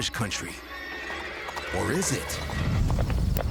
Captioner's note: horse neighing